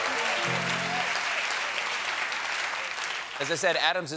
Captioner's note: applause